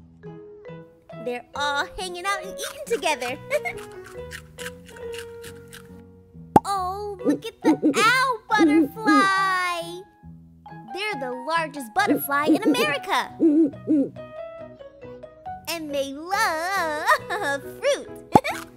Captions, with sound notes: They're all hanging out and eating together. (LAUGHS) Ooo! Look at the Owl Butterfly! They're the largest butterfly in America! And they LOOOOOOVE fruit! (LAUGHS)